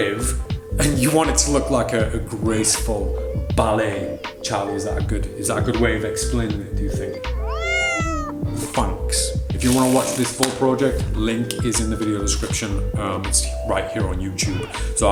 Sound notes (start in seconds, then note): 6.8 Charlie meows